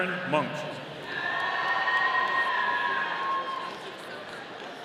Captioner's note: audience cheering